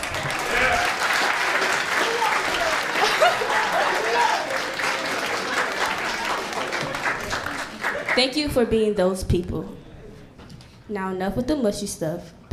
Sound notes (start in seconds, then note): 0.2 applauding; 3.3 laughs